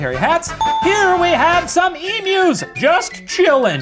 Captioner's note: bell rings